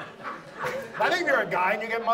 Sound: audience laughs

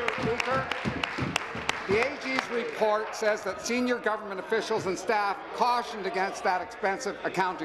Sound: applause

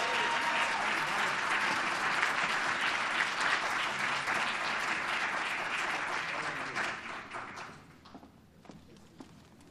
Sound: applause

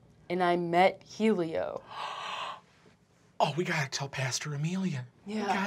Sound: gasping

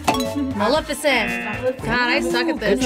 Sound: bell dings; klaxon sounds

